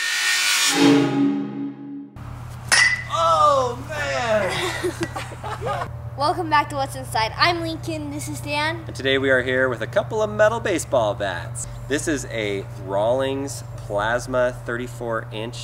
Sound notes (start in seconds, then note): 2.6 bat clangs; 4.3 laughter